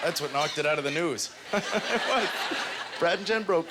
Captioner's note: laughs